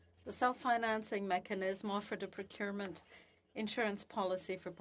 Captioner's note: speaking French